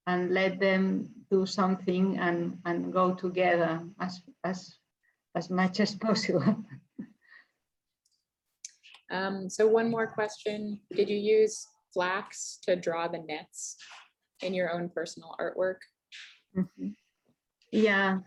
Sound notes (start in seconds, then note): 6.3 chuckles